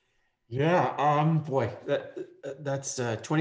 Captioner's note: laughing